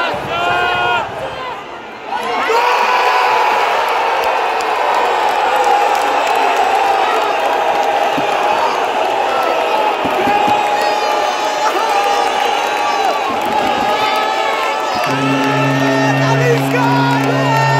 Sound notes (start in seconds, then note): 1.2 clap